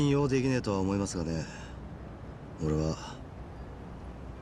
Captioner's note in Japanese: none